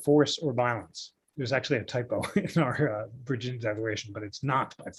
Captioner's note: laughter